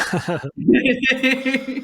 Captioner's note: laughing